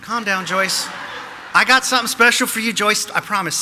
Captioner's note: audience laughing